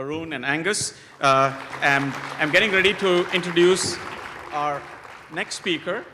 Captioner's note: applause